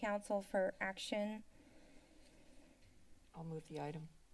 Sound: silence

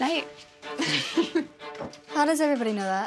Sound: laughs

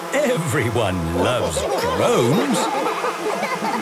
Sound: laughter

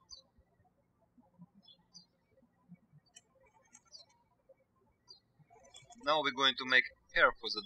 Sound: birds chirping

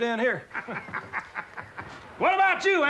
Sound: man laughing

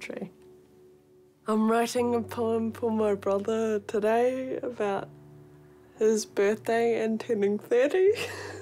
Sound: laughs

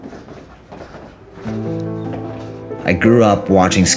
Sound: footsteps

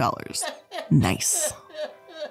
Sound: laughs

